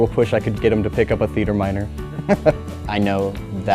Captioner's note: chuckle